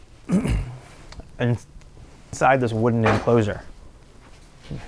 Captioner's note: clears throat